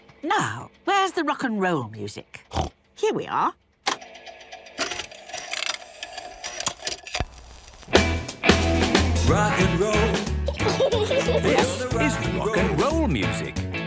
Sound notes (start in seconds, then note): 4.4 clicks, whirring